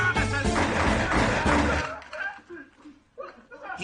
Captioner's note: gun shots